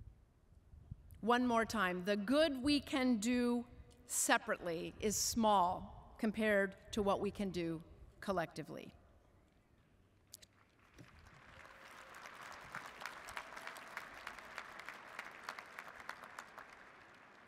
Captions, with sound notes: One more time. "The good we can do separately is small compared to what we can do collectively." (audience applauds)